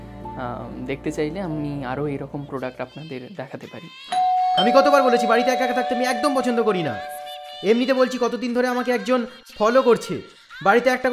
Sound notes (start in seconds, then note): 4.1 calling Bell Rings; 4.2 music from local festival